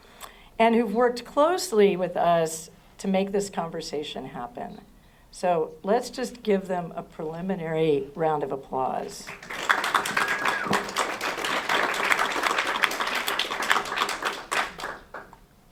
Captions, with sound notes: y que han trabajado estrechamente con nosotros para hacer posible esta conversación. Démosles un aplauso preliminar. [aplausos]